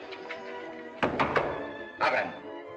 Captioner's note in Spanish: Golpean de nuevo